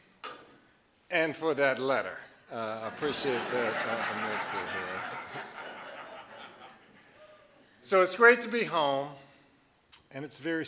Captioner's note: audience laughing